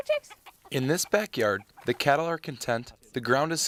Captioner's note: voiceover